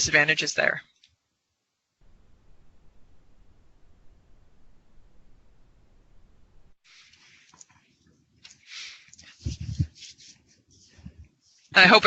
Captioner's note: silence